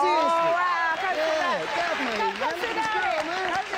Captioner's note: clapping